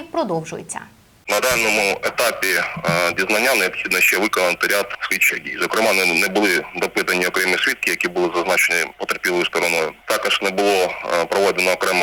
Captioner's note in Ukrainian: телефонна розмова